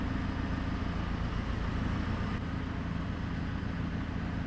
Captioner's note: humming continues